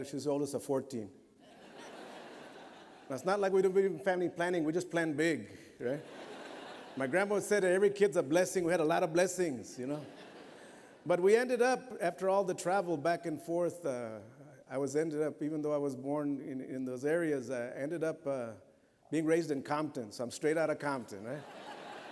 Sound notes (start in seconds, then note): 1.4 laughter; 5.8 laughter; 21.3 laughter